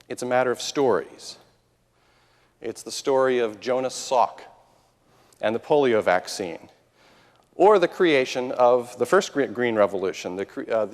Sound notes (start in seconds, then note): none